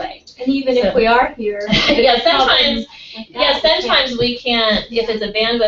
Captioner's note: laugh